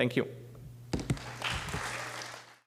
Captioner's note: applause